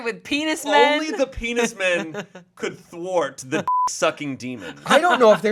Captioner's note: beep